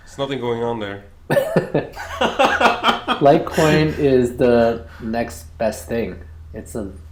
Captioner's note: laughs